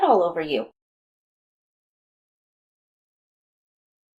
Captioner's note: long silence